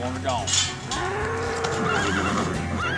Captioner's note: mooing, horse whinnies